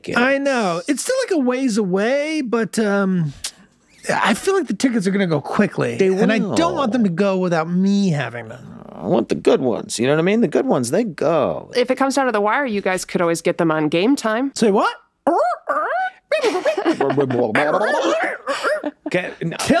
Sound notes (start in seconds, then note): 15.2 Glenn makes beeping noises; 17.4 Charlie makes record-scratch noises